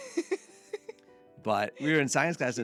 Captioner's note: laughing